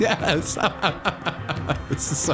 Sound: laughing

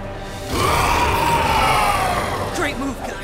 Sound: growling

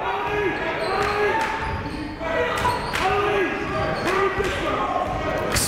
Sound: clapping; shouting

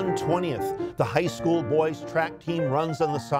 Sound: reciting

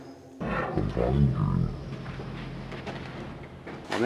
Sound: a hissing sound

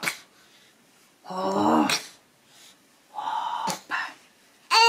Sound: baby breathes out; baby exclaims

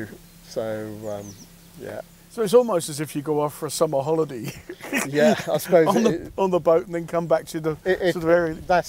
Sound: laughter

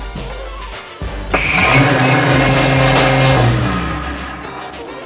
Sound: frothing jar motor revs; upbeat music

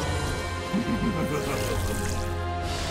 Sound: laughing

